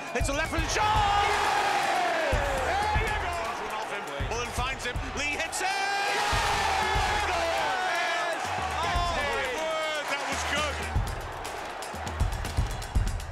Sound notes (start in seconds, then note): 1.1 cheering; 5.7 cheering; 11.2 applause